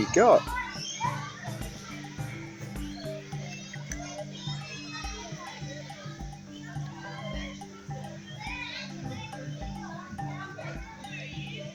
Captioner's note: birds chirping, people chattering